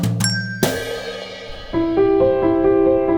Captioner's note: chimes; gentle piano music